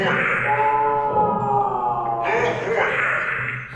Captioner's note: victim screaming